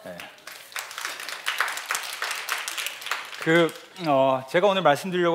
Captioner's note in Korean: 박수